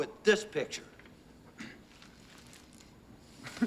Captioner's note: clears Throat; Burke Chuckles